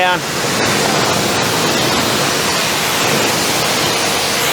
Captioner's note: water splashing